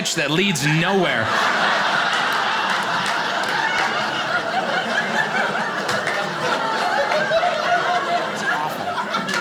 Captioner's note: audience laughing